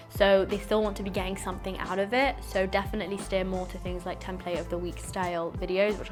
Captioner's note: none